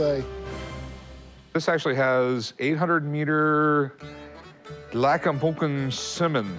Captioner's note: non-english speech